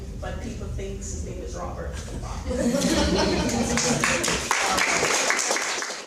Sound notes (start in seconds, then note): 2.6 laughing and applauding